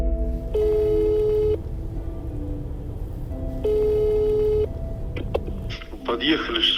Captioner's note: dial tone